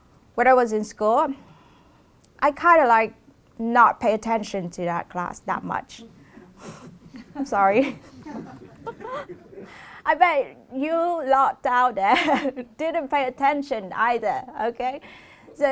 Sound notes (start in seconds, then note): 6.9 laughter